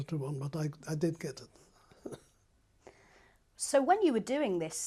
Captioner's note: laughs